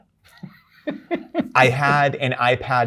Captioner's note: guy laughs